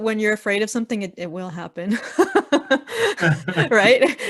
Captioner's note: laughing